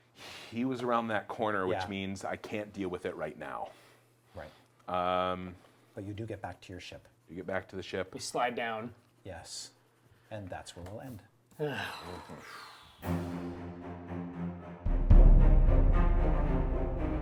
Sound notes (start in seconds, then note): 11.6 all sigh; 13.0 intense music